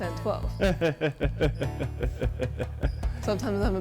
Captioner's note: laughs